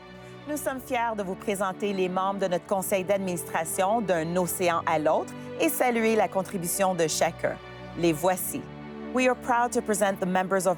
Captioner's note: speaking French